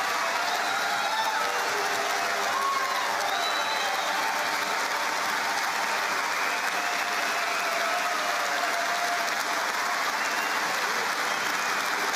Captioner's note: cheering and APPLAUSE